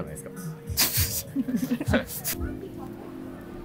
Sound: laughing

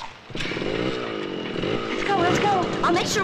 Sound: motorcycle starting

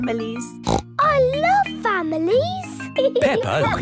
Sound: snorts

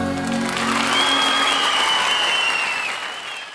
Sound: audience cheering

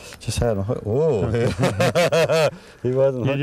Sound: laughter

